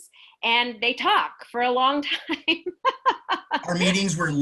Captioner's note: laughs